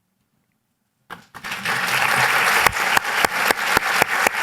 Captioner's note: applause